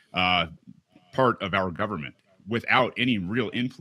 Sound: laughing

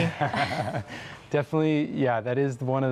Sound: laughs

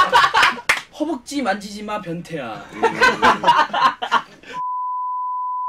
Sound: laugh; laughs

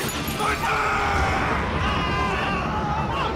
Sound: thunder; screaming

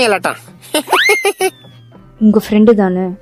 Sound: laughter

